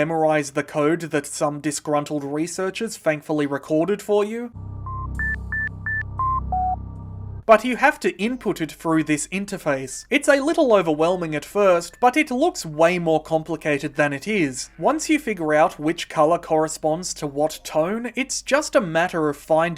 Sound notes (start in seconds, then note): 4.8 bleeps and bloops